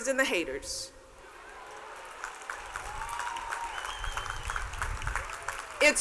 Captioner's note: cheers and applause